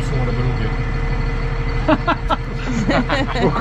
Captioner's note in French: rires